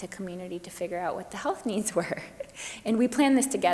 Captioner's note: chuckles